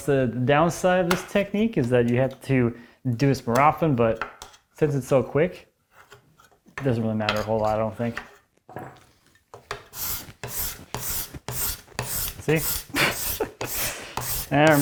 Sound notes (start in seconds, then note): 0.0 scraper on wood clattering; 5.5 metal on metal scraping; 9.7 blade on wood scraping; 12.9 chuckling